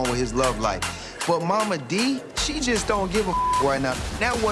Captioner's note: beep